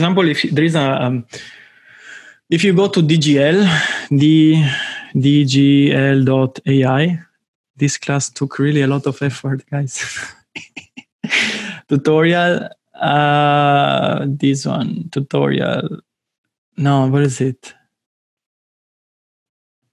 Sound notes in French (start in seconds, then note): 10.1 rires